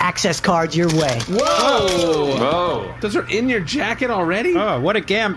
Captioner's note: the crew all “woahh!”